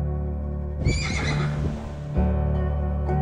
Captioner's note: Arrow whinnies